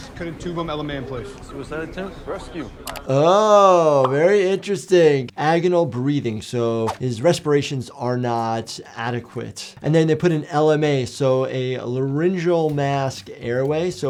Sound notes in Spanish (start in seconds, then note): none